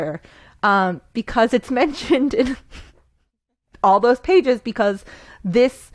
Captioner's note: laughs